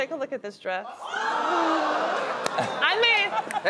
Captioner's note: audience exclaiming surprise